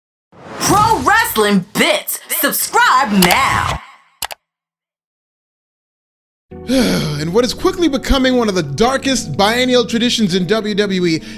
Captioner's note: sigh